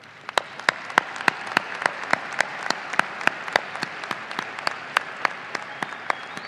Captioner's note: audience applauding and cheering